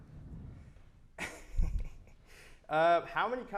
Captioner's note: laughs